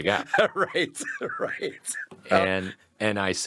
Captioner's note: laughs